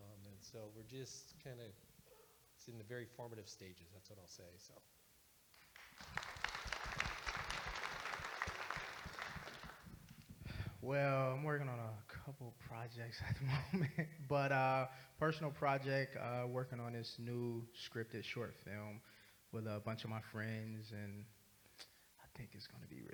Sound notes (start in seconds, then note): 5.5 audience Applauding